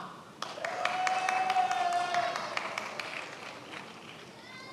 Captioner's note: many applauding